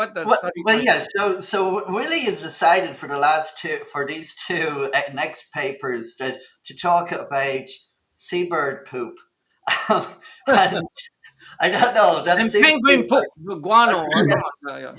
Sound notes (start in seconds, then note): 10.4 laughter